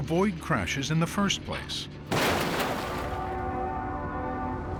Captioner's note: horn blaring